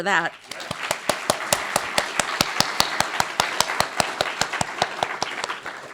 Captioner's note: applause